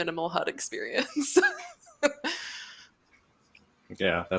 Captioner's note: laughs